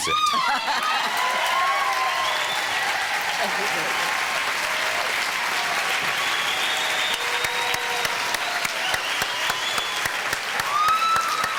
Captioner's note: audience cheering